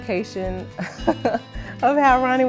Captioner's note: laughs